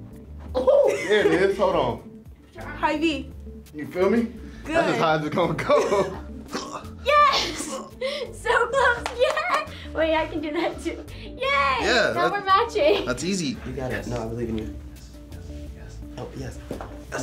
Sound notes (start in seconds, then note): 6.5 grunts; 8.9 claps; 14.9 whispers